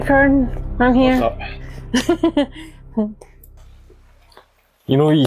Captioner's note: eerie Music fades; eerie Music; unicorn laughs